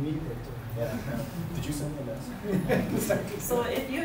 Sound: laughs

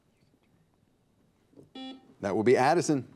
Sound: buzzer beeps

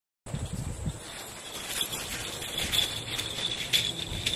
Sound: rattles & jingling bells

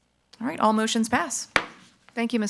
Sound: gavel thuds

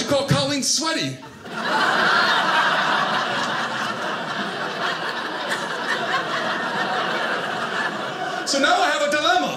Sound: audience laughing

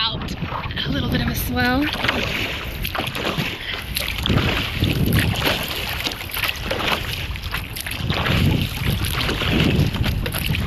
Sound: splashing sound

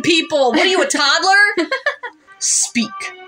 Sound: laugh

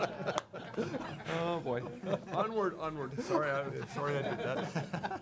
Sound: laughing

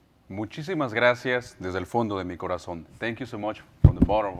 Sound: speaking in foreign language

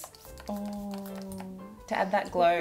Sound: bottle clicking

